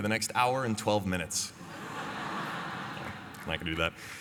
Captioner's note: laughter